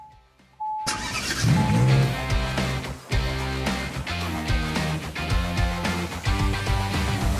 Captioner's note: car beeping; engine revving; upbeat music